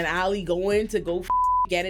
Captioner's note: beep